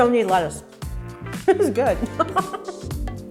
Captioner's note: laughs